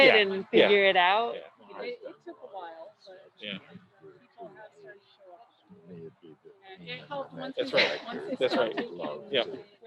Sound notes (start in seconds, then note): 1.9 crowd chattering